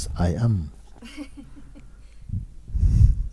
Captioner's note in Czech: smích